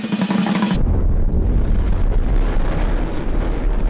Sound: rumbling

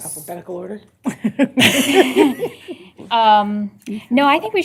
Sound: laughter

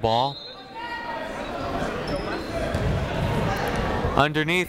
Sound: people shouting in the crowd

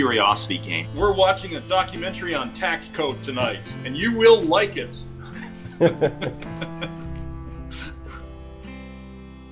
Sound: laughter

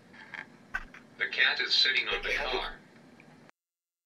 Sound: voiceover

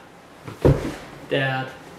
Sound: thuds on ground

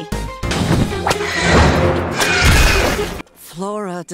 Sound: screeches

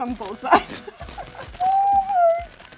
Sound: laughs

